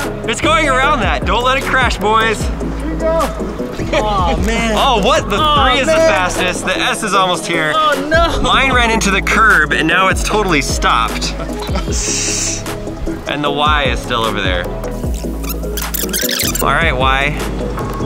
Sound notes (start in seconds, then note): 2.5 inaudible yelling; 15.1 tape rewinding